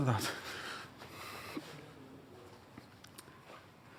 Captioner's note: exhales